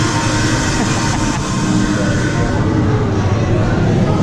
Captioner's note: male laughing